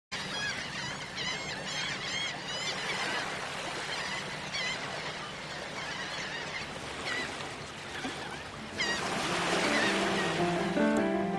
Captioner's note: seagulls Cawing